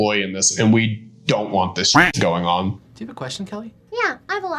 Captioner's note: duck quacking